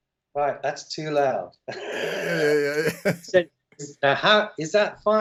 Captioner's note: laughter